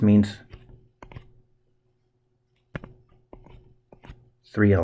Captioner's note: writing Sounds